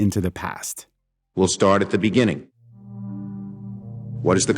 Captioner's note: soundbite of archived recording